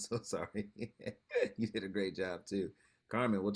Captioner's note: laughs